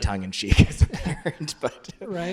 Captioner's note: laughs